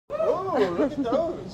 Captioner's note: cheering